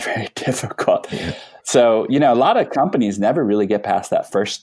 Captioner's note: laughs